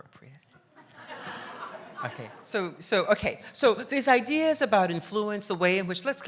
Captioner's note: laughs